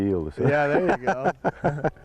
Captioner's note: laghter